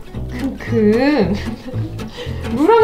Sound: laugh

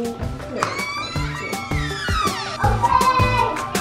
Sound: door creaking

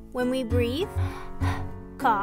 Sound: breathes

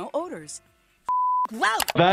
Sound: beep

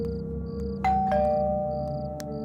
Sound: door bell rings

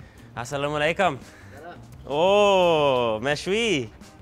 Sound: speaking Arabic

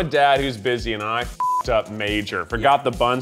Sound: beep

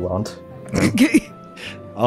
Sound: chuckle

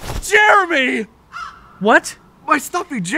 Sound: bird squawking

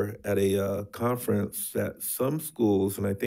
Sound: none

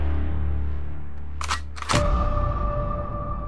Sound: gun cock

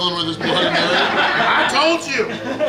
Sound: laughing

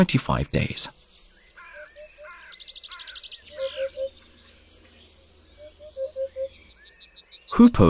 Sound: sounds of nature

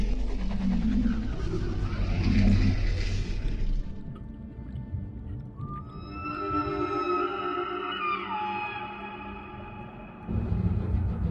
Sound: mosasaurus Sounds

